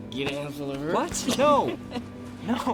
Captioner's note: laughs